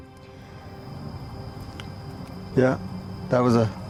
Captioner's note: animal howling